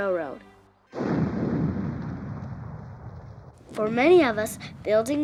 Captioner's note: explosive booming